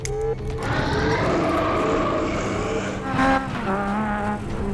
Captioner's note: vampire growls